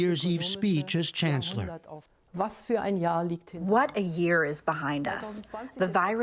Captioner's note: through translator